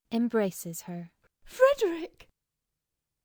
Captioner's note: enthusiastically